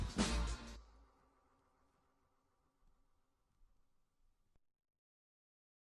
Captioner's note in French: silence